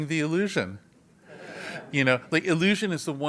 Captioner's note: laugh